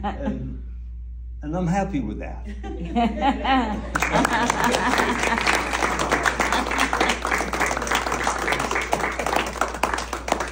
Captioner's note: clapping